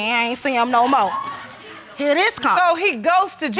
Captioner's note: audience exclaiming